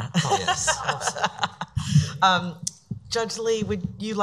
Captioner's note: laughing